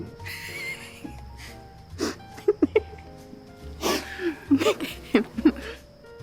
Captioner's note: laughing